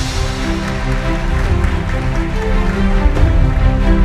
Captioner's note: the audience applauds